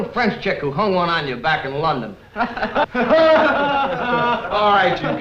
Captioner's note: laughs